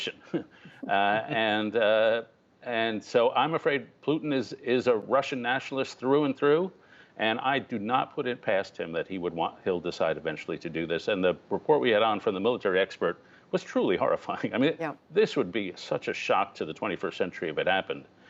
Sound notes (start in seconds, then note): 0.2 laughter